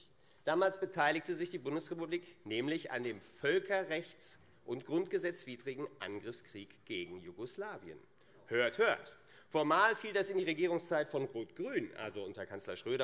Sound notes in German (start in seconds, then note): none